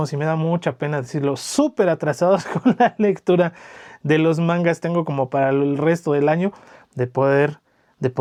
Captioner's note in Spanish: risas